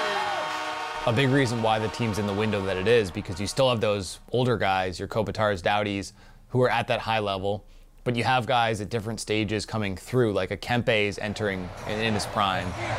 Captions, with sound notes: (crowd cheering) (horn blowing) - A big reasons why the team's in the window that it is, is because you still have those older guys, your Kopitar's, Doughty's who are at that high level. But you have guys at different stages coming through. Like a Kempe is entering in his prime.